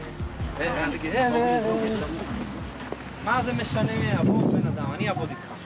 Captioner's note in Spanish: Hablando de lenguas extranjeras